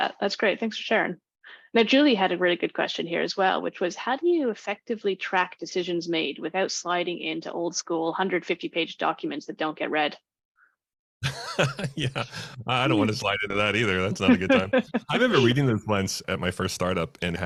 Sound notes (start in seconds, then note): 11.2 laughs